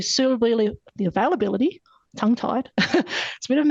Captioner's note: laughs